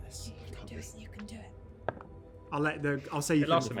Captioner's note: whispers